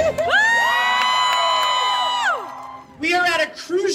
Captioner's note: crowd cheering